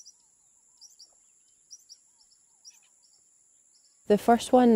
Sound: birds chirping

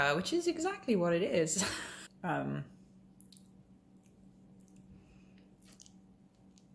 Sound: laugh

